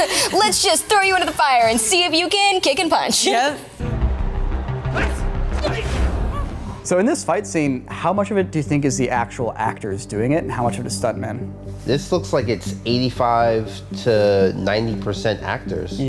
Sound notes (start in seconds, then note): 0.0 Peyton and Mary laugh; 3.8 intense electronic music; 5.5 fighters grunt